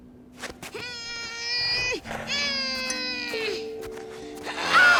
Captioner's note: grunting; gasping